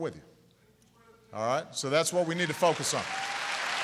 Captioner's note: applause